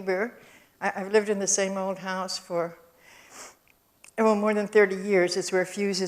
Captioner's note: sniffs